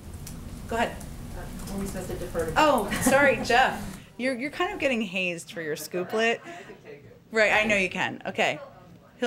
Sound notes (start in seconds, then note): 6.1 laughter